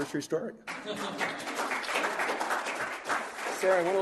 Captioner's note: applause